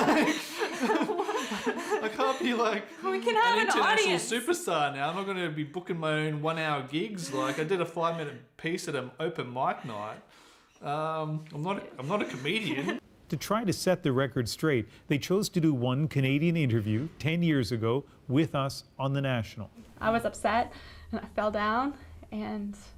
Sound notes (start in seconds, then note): 7.2 laughter